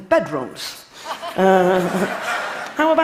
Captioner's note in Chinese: Laughter; 笑聲